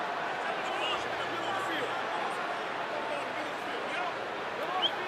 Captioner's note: onfield chatter